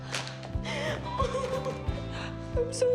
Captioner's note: sobbing